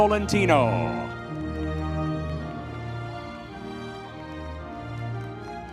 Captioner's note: audience members cheering